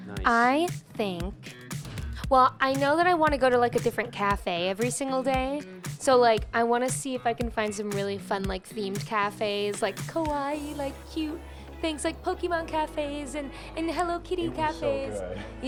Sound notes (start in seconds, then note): none